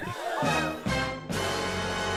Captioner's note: people gasp